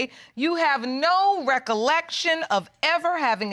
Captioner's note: none